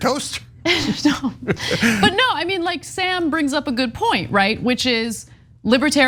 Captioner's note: laugh